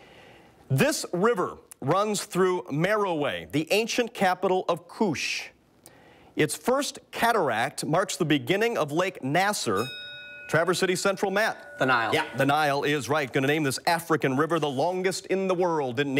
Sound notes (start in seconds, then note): 9.6 bell rings